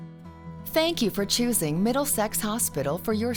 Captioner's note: peaceful music; voiceover